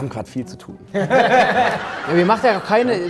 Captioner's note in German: Lachen